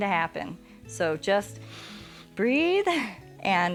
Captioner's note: inhales